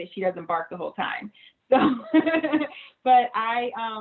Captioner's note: laughing